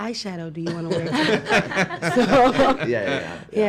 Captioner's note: laughing